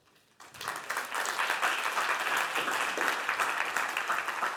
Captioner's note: Aplodeja